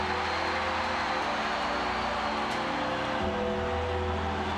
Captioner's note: crowd cheering continues